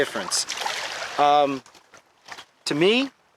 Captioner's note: water splashing